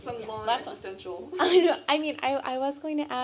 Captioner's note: laughs